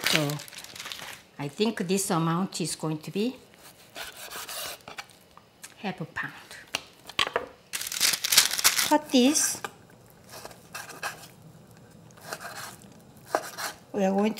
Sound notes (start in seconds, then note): 10.2 knife cutting